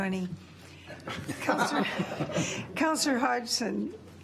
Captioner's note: laughter